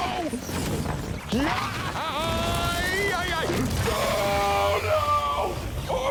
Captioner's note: screaming